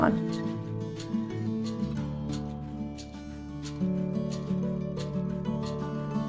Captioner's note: in Finnish